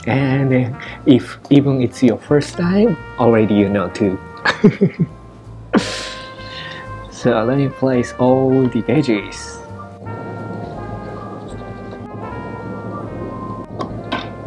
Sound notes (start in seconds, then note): 4.4 chuckles